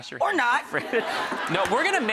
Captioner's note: laughter